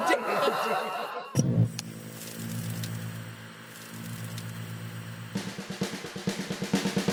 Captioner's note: click, TV static; groovy theme